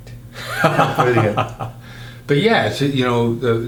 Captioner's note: laughing